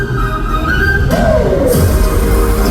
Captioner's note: clack!